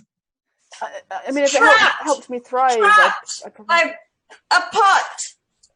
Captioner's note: shouts